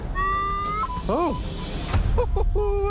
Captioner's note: sustained beep